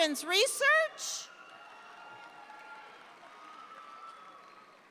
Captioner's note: audience applauds